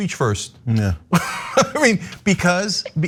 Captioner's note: laugh